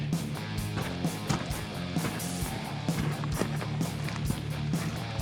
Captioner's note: footsteps thumping